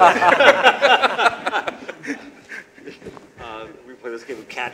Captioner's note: laughter